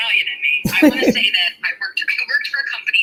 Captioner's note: laughing